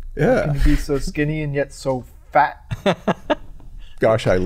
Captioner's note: chuckle